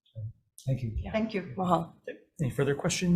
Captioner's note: speaking in foreign language